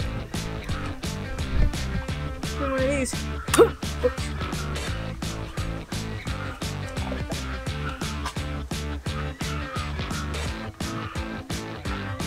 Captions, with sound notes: One of these, (grunts) oops.